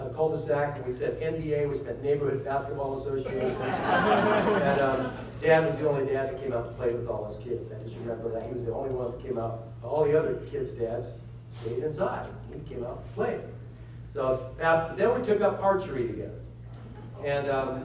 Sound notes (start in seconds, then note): 3.2 laughter